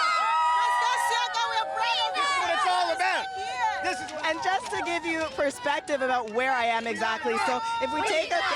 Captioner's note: cheers